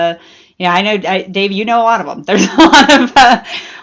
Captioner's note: laughs